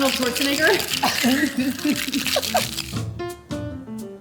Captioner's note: laughs